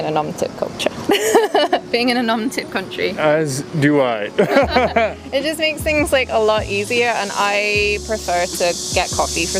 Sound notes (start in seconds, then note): 1.1 laughs; 4.3 both laugh